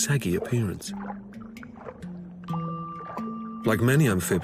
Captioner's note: water sloshing